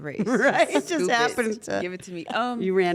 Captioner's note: laugh